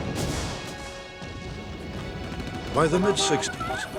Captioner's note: explosion; gun shots